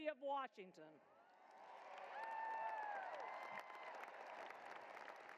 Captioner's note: cheering and applause